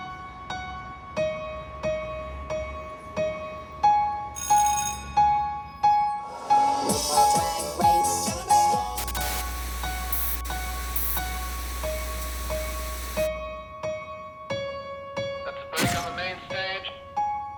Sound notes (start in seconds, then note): 4.3 bell rings; 5.7 theme music; 6.9 static